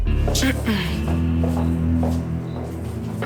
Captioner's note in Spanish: Isabel carraspea